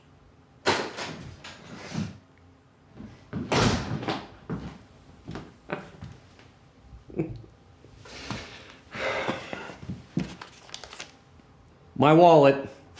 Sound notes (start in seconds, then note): 7.0 Ulysses chuckles